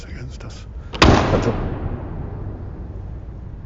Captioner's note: thump